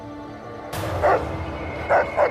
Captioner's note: barking